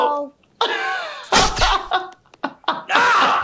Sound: laughing

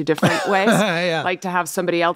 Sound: laughs

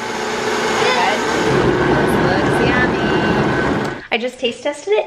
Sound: blender drowns out voices

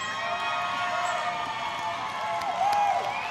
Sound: applause

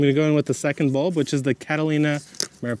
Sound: bag tears

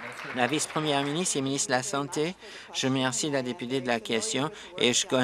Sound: applause

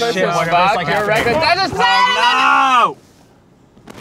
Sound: yelling

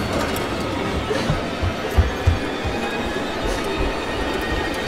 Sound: Chandler breathing heavily

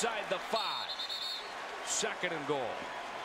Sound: whistle

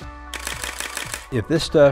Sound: camera clicking

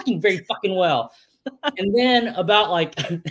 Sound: laughs

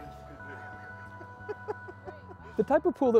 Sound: laughing

